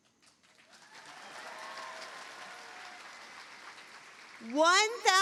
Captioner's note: cheering, applause